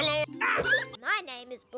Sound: kids laugh

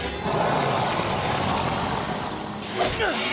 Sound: growling

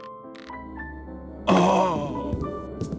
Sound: painful moan

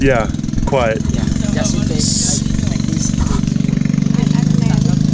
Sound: engine rumbles

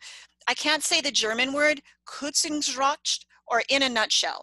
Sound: speaking german

